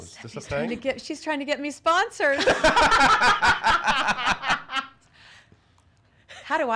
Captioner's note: laughs